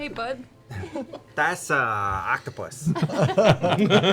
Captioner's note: kid voice